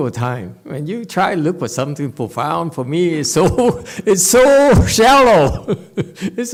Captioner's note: laughs